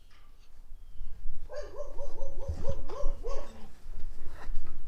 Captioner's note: dogs barking